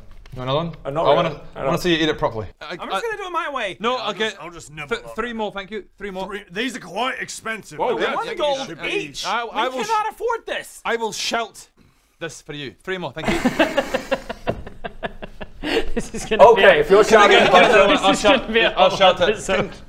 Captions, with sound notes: want another one? - Not really - I wanna, I wanna see you eat it properly Yeah, I-- I'm just gonna do it my way - No, okay, 3 more thank you - I'll just nibble on it Three more These are quite expensive - I don't think you should be - One gold each I...I will We cannot afford this I will shout this for you three more, thank you *laughter* this is gonna be a - Okay, if you're shouting Bodger - Can I get another - this is gonna be a whole episode - I'll shout, I'll shout it